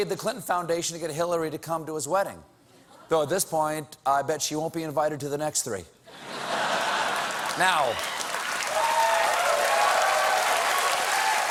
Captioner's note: applause; laughter